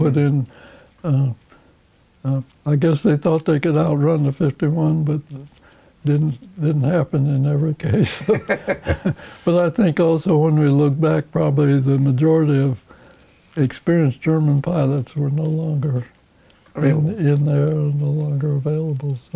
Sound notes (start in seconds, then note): 8.0 laughing